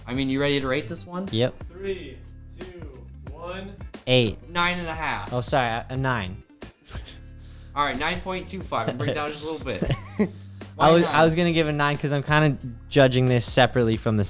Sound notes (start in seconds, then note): 6.3 chuckles; 10.4 chuckles